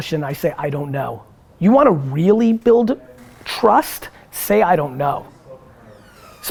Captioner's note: none